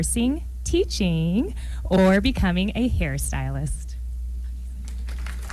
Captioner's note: applause